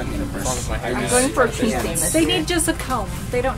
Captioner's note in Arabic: الأطفال يتحدثون بحيوية